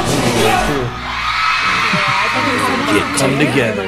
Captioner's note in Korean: 환호 및 박수